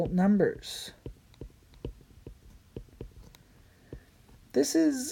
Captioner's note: writing